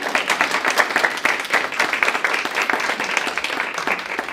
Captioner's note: audience clapping